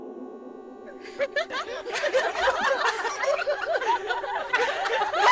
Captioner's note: ladies laughing